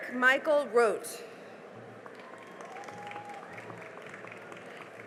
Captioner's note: cheering and applause